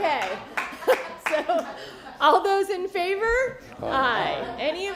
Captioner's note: laughter